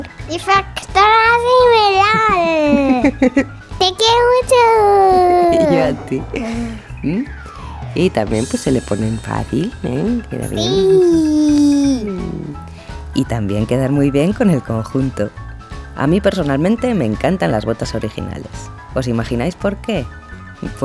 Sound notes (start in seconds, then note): 1.9 laugh